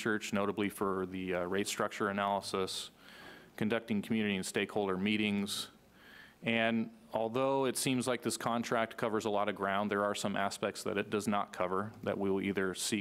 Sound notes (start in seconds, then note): none